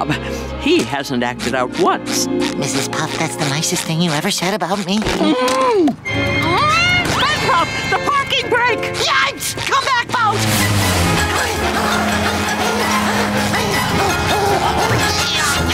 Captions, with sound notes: He hasn't acted out once. That's the nicest thing you've ever said about me. [groaning] -SpongeBob, the parking brake! -Yikes, come back boat! [grunting]